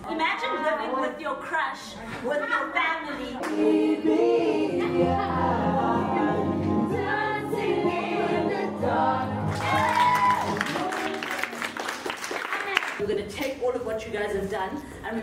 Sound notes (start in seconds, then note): 9.4 students and instructor clapping